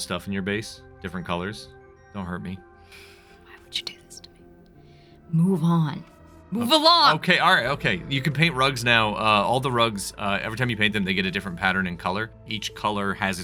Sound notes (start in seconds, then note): 2.7 whispering; 5.3 louder, yelling